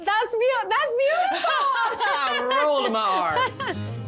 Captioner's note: laughs